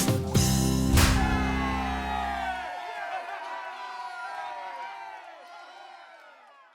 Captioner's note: students shouting in celebration